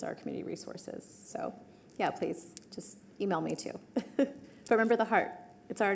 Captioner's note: laughs